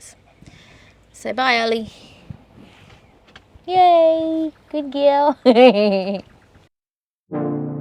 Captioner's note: giggles again